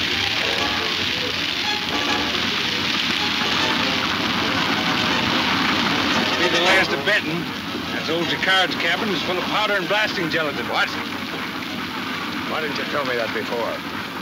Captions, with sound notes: (wagon rumbling) - It will be the last of Benton. That old Jacard's cabin is full of powder and blasting gelatin. - What? Why didn't you tell me that before?